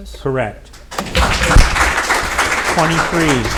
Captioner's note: audience applauding